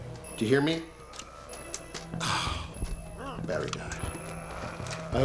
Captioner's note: scoffs